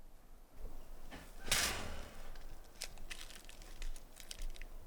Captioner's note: tree bark rustling